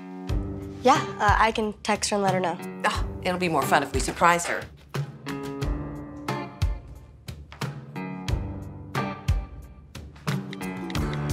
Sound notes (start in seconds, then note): 2.8 scoffs; 5.2 whimsical music